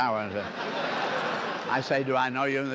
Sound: laughter

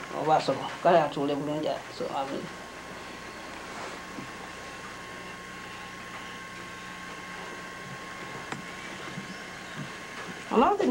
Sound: non-english speech

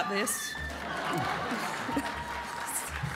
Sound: applause

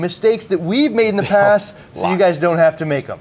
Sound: chuckles

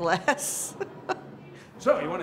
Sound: laughs

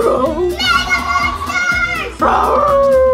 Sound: yelling; monster howls

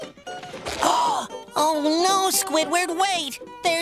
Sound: gasps

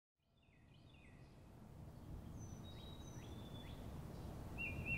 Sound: birds singing

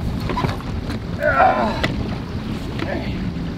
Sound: groaning

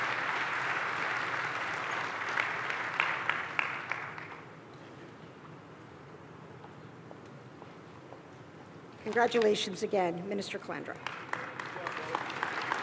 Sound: applause

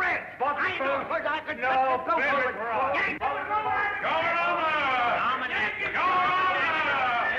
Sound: arguing

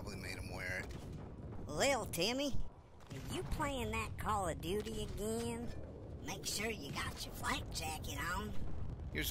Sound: mom Voice

